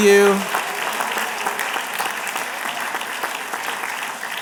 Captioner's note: applause